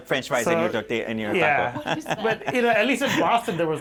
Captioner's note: laughter